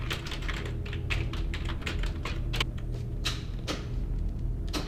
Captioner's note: buttons clicking